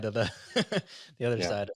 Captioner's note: laughs